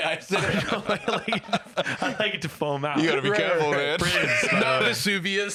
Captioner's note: laughing